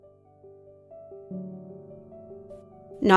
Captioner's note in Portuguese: Voz feminina